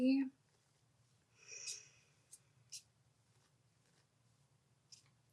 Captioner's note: cards shuffling